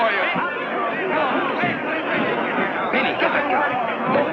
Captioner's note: angry shouting